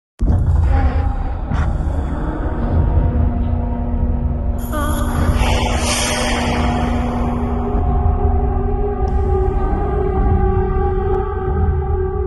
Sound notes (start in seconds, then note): 5.2 steam vents expelling air; 7.7 eerie ringing